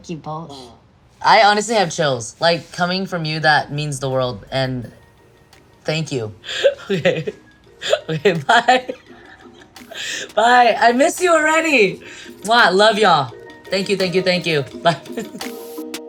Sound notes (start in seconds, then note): 7.7 laughs; 14.7 laughs